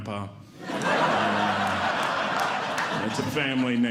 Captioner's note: audience Laughing